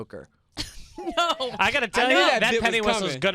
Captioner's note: laughs